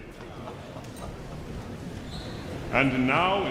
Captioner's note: audience members chattering indistinctly